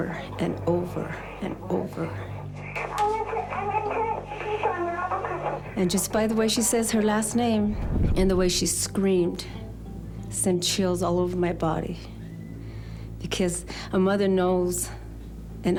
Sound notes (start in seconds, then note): 3.1 on phone